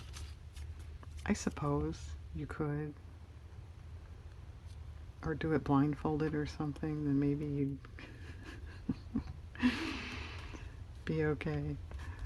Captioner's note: laughs